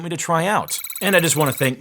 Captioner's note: electronic beep